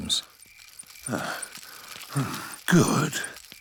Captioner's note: panting